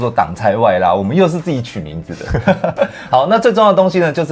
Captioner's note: laughs